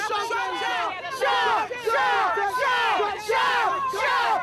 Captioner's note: shouting